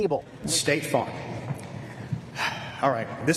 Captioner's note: big sigh